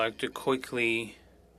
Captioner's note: speaking french